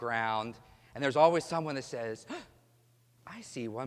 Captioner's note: gasp